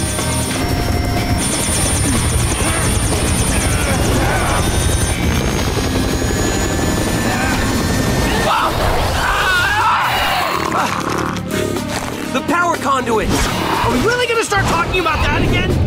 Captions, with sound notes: [grunting] [grunting] Whoa! [screaming] The power conduits. Are we really gonna start talking about that again?